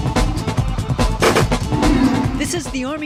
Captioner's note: techno music playing; gun firing